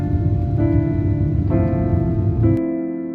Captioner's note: plane takes off